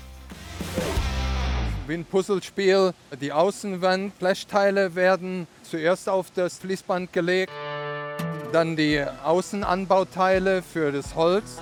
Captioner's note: German